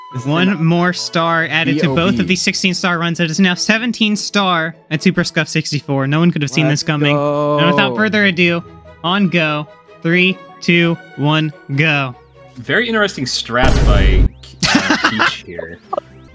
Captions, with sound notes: One more star added to both of these 16 star runs. It is now 17 Star at Super Scuffed 64. No one could have seen this coming. Let's go! And without further ado, on go. 3, 2, 1, go. Very interesting strats by Peach here. (boom)